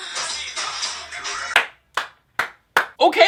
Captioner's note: clapping